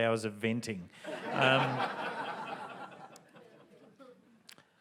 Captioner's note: audience laughs